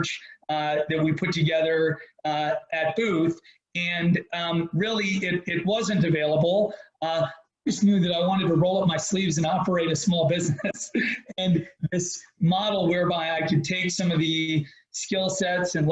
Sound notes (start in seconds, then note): 10.4 laughs